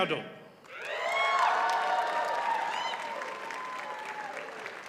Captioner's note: audience cheers and applauds